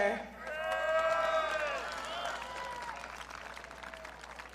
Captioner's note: audience cheering